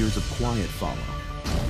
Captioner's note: impact